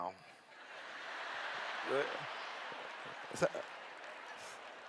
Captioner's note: laughter